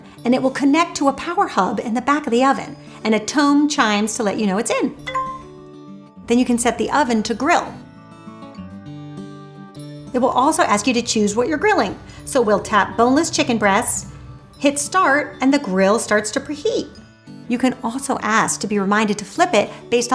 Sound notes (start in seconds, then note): 5.0 tone chimes